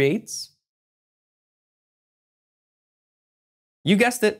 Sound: pause

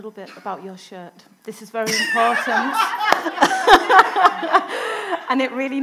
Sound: audience laughing

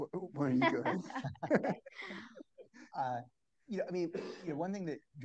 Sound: all laugh

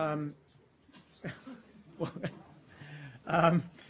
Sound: laughing

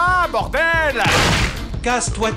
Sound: anime hammer smash sond; computer-generated voice

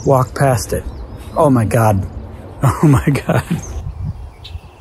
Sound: chuckles

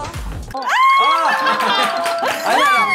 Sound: shrieks

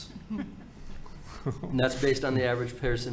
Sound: everyone chuckling

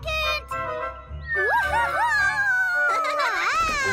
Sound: chuckles

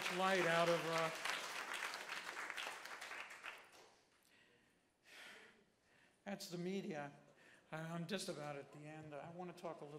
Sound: applause

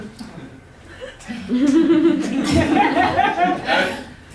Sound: laughter

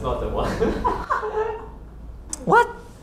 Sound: hahaha

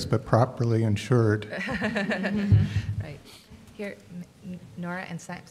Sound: laughing

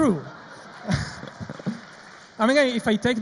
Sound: audience laughs

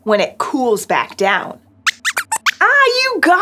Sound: squeaks squeaks

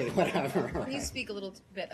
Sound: laughter

